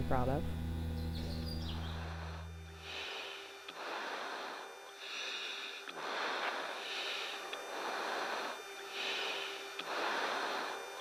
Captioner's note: sound of breathing over radio